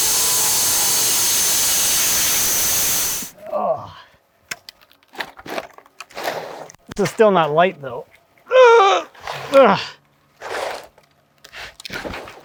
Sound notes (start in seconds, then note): 3.4 grunts; 10.9 straining